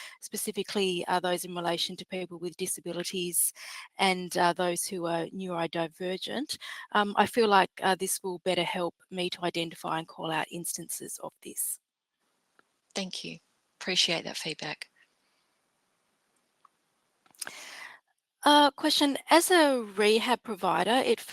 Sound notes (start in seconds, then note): none